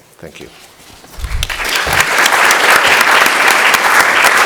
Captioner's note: applause